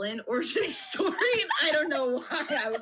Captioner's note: laughs